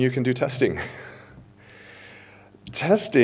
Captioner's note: chuckles